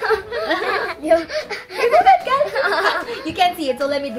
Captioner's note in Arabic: أطفال يضحكون